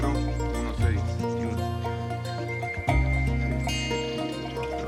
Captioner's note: account in Spanish